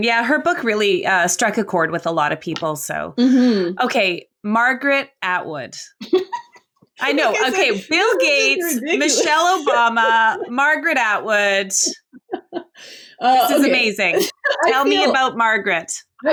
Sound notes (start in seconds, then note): 7.0 laughs